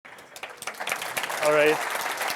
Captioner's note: applause